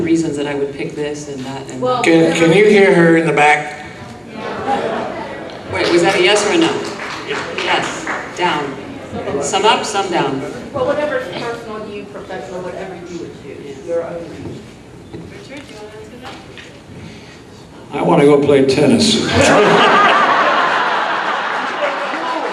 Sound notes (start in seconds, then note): 7.7 scattered clapping; 19.2 audience laughs